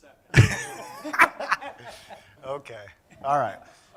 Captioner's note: laughing